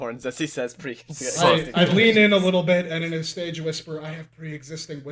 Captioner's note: I lean in a little bit and in a stage whisper